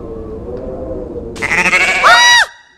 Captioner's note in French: bêlement